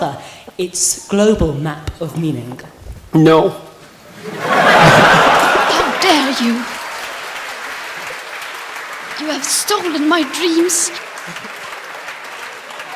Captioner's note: laughter; laughter